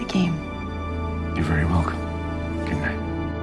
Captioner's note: voiceover